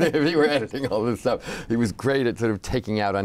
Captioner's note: laughing